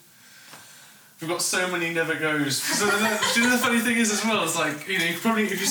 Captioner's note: laughter